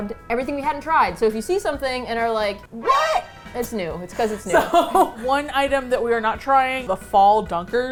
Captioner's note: laughs